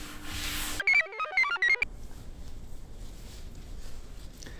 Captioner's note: computer chirps